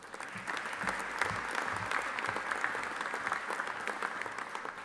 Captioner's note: audience applauding